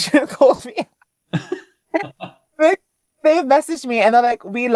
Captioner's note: laughing